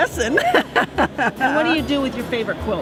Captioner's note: laughter